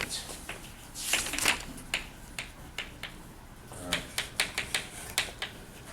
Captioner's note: chalk clicking on board